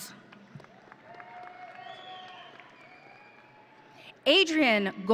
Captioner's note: audience cheering